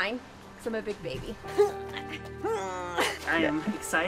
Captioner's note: grunting noises